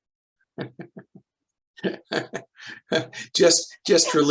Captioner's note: laughs